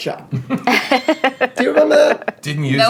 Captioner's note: laughing